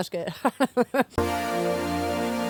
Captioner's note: laughs